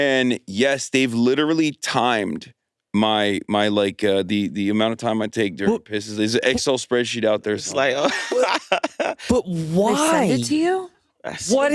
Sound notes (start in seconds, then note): 7.8 laughs